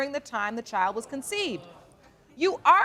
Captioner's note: audience murmuring